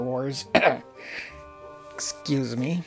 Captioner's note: coughcoughstarwarscoughcough